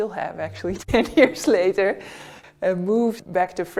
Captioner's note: chuckling